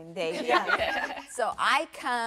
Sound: women laughing

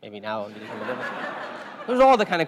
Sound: laugh

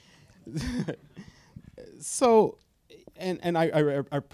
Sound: chuckles

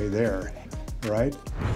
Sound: whispers

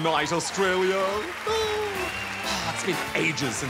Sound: applause

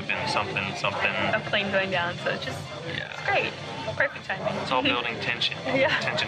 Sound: sarcasm

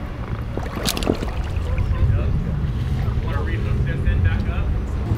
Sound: water gurgles

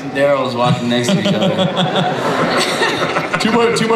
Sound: Chris laughs

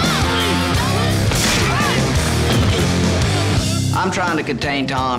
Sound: contestants yelling

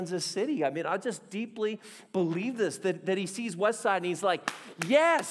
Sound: applauding

